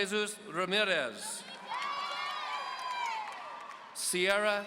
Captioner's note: audience cheering